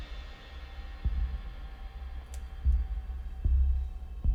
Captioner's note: thumping